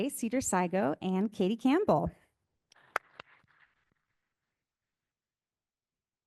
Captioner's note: audience applauding